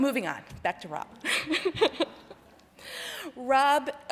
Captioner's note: laughing